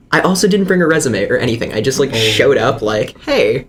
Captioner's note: ohhh